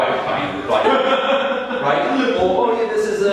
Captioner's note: audience laughing